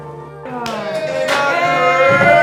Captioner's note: cheering